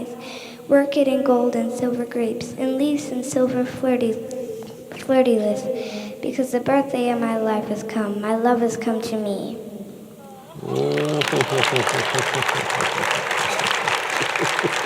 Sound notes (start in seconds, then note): 10.6 applause